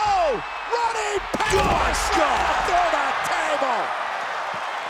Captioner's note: body thudding; crowd cheering